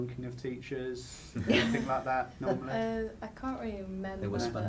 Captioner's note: laughs